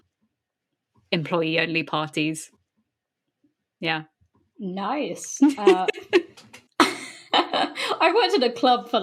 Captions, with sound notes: employee only parties. Yeah. Nice uh… [BOTH LAUGH.] I worked at a club for